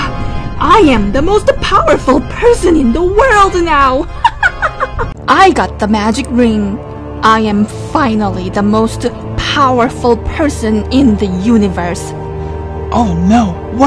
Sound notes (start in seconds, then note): 4.1 laugh